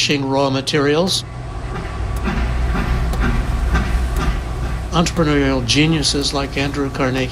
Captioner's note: soundbite of train chugging